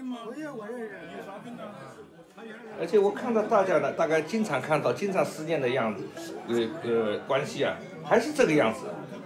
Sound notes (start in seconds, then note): 0.2 people chattering; 3.0 man speaks in Chinese language